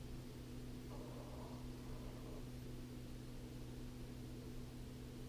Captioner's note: pen scratching